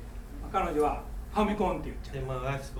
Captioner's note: speaking in foreign language